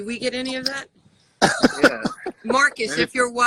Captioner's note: laughs